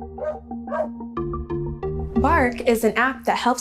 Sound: upbeat instrumental music; dog barking

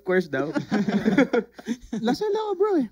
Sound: laughs

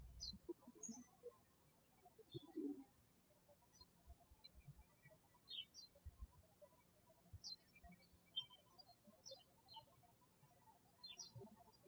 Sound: birds chirping

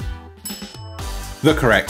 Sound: bell clinking

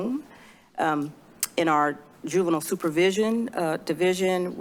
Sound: clicks tongue

